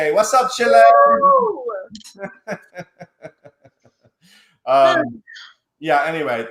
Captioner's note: laughs